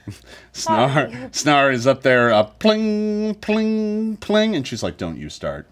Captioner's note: imitates strings being plucked